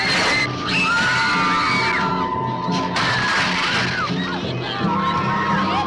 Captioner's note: girls screaming; dramatic music